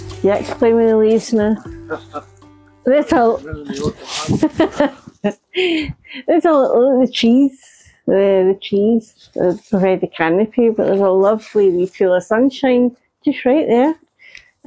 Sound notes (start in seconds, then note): 4.2 laughter